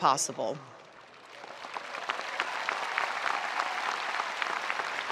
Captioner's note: spectators applauding